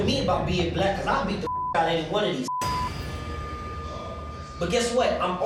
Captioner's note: beep